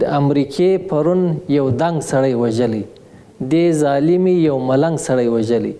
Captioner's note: speaking in foreign language